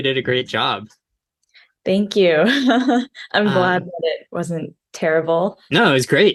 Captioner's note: laughing